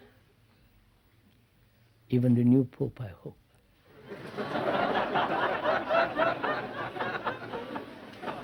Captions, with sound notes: Even the new pope, I hope. (Laughter)